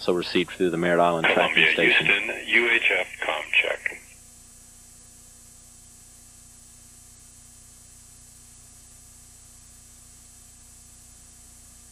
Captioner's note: long, long pause